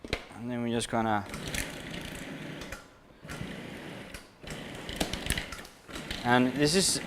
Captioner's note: pulsing mixer